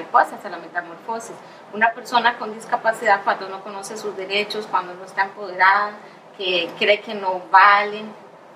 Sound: speaking in Spanish

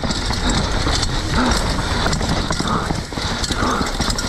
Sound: bike clattering

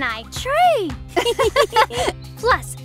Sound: both girls laugh

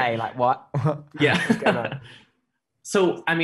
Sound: laughs

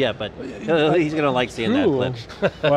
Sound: laughs

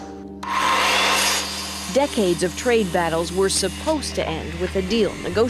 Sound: buzzing

